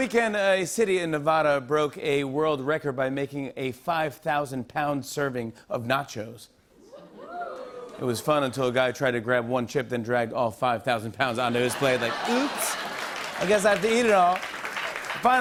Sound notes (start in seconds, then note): 6.9 audience oohs; 11.5 laughter